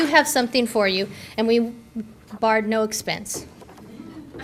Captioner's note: audience laughter